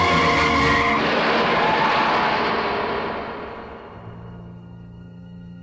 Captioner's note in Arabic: اصرير الإطارات; تحطم المعدن